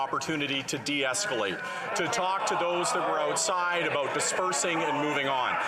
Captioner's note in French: voix de l'interprète